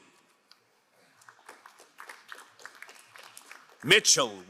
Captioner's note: crowd applauding